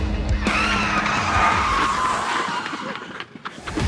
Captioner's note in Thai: เสียงรถเบรก